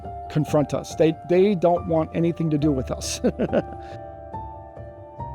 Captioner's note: laughs; dramatic music